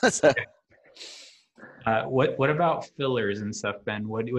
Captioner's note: laughing